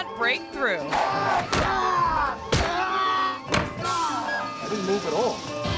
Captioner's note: martial artist screams